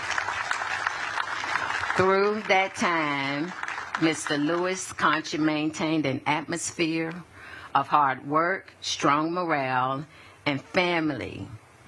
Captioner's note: applause